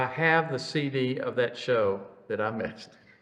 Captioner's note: laughs